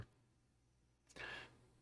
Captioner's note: slight inhale